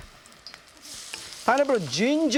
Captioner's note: wok sizzling